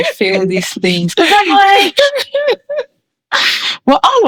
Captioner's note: laughing